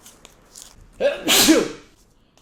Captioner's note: sneezes